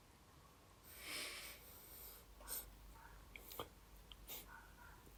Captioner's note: Dan sniffing